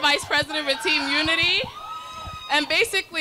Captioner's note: crowd cheering